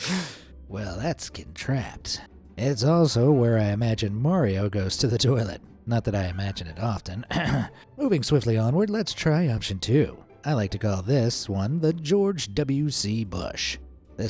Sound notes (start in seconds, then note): 0.0 deeply inhales; 7.3 clears throat